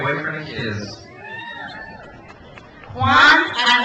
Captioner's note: crowd cheers